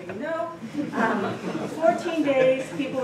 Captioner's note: laughter